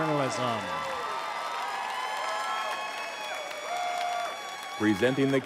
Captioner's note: audience cheering